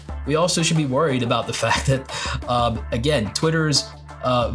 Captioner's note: laughs